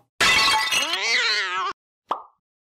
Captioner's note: cat sounds in Spanish